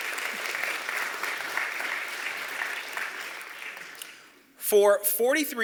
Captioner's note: applause